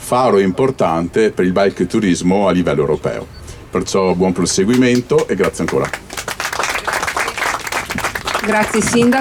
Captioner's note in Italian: Applauso